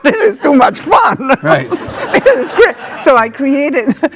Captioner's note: laughing